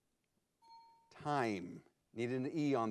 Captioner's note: bell chimes